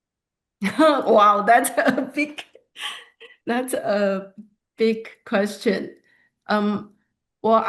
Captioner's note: laughs